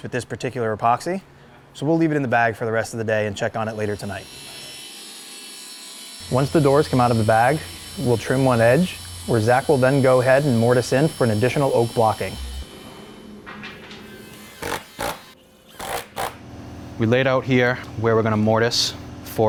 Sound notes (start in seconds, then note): 4.9 saw buzzing; 14.1 drill buzzing